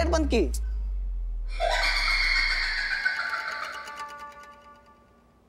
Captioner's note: maniacal laugh